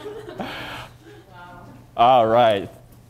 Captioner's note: laughter